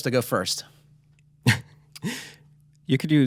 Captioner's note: chuckles